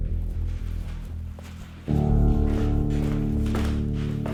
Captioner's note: floor creaking